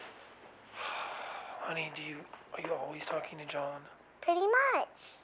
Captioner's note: sighs